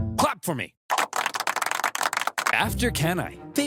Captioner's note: senators clapping